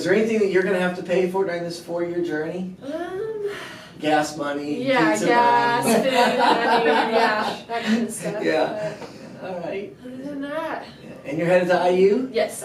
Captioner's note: laughter